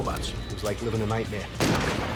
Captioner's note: gun shot